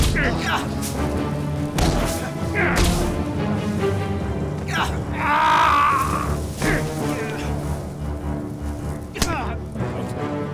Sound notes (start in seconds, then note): 0.2 grunting; 1.7 thudding; 6.0 shouting